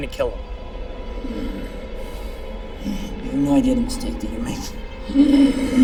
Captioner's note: groans